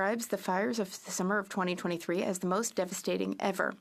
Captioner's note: speaking French